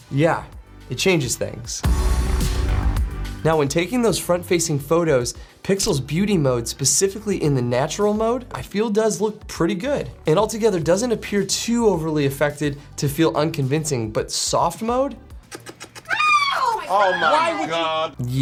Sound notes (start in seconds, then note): 1.8 upbeat techno music; 15.5 helicopter wings spins; 16.0 woman screams